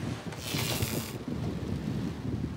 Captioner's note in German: whir